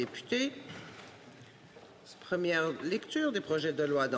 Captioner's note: speaking French